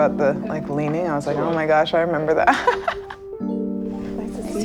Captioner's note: laughs